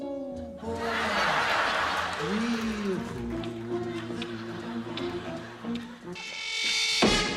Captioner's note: laughter